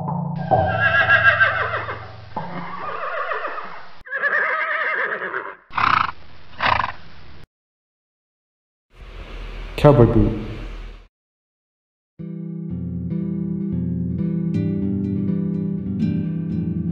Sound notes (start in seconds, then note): 0.0 horse trotting sfx; 0.4 horse whinny sfx; 5.7 horse snort sfx